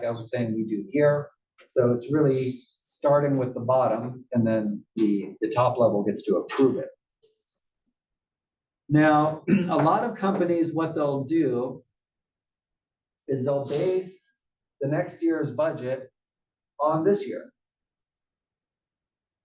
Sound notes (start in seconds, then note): 9.4 cough